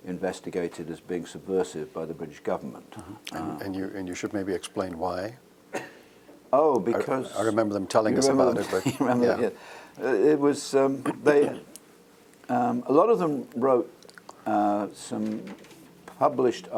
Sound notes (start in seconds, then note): 8.5 laugh